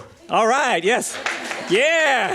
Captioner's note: applause